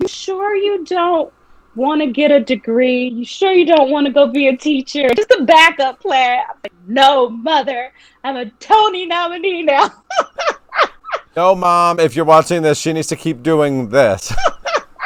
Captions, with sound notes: you sure you don't wanna get a degree? You sure you don't want to go be a teacher? just a backup plan. I was like, no mother. I'm a Tony nominee now. (laughing) - No, mom. If you're watching this, she needs to keep doing this.